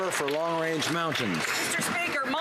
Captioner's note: some Applause